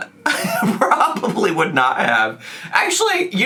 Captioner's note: laughs